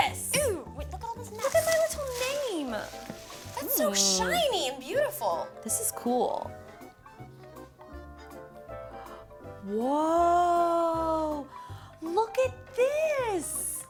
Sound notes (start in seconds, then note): 11.5 gasps